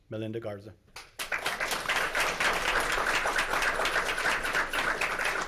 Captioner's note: audience clapping